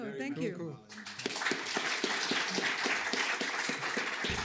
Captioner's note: applause